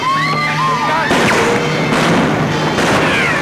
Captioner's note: guns bang; women scream; guns bang